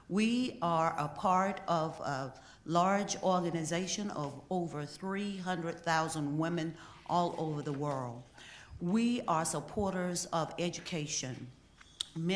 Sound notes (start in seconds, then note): none